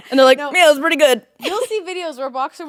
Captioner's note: laughing